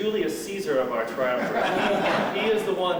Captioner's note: laughter